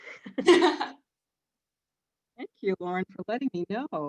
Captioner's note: laughs